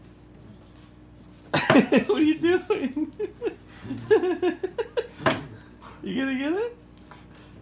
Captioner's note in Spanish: Tiếng cười